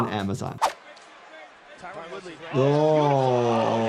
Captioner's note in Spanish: la audiencia aplaude